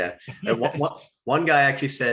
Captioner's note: chuckles